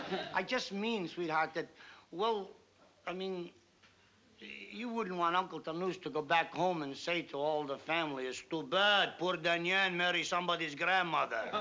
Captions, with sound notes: I just mean, sweetheart, that well-- I mean, you wouldn't want Tonoose to go back home and say to all the family, (IMITATING UNCLE TONOOSE) it's too bad. Poor Danyon marry somebody's grandmother.